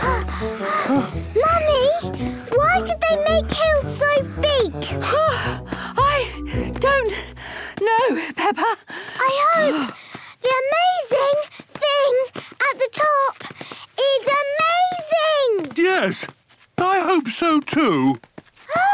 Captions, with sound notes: (panting) - Mummy! Why did they make hills so big? (panting) - I... don't... know, Peppa. - I hope... the amazing thing... at the top... is amazing! - Yes. I hope so too.